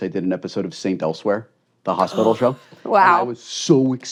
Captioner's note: gasps